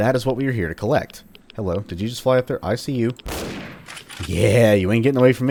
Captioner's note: bam